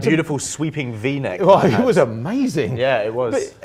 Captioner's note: laughs